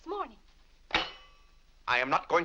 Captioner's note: silverware slams